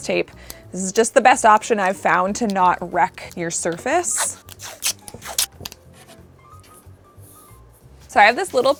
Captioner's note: scratching